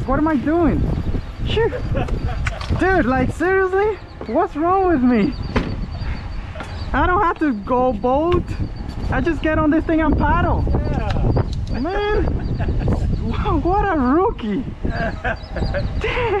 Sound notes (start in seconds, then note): 1.5 laughing; 11.7 laughing; 14.8 laughing